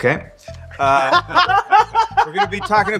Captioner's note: laughter